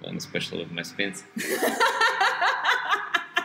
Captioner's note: both laugh